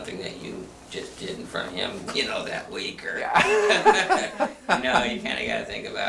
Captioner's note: laughs